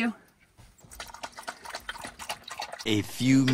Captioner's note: tongue lapping